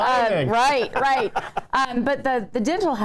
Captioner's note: laughs